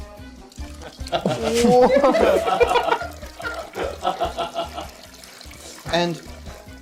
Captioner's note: trickling sound